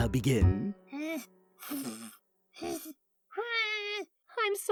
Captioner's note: clover pathetically blows